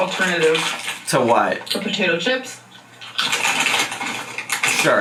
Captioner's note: chews